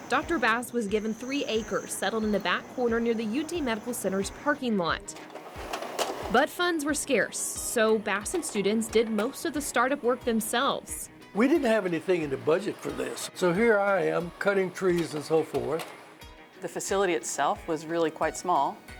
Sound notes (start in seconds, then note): 5.1 slides clicking